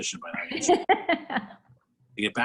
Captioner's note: laughs